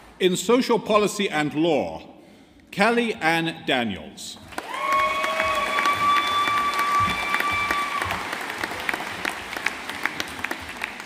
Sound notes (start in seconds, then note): 4.5 audience applauding